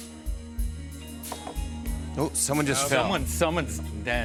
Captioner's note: clunk